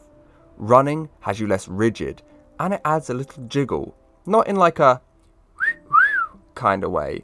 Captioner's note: wolf Whistle